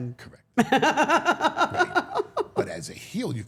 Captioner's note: Steph laughing